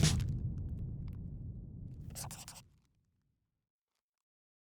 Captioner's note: scribbling